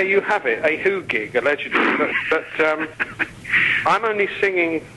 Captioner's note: interviewer laughing